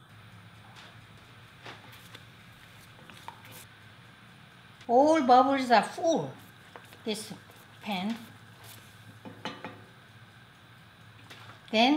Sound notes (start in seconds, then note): 1.7 syrup gurgling; 9.2 spoon thuds